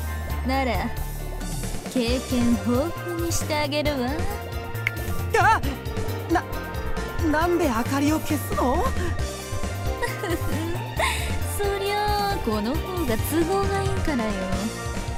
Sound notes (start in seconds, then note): 5.6 gasp; 9.9 giggle